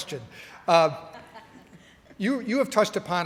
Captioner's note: laughing